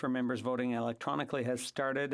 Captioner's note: speaking French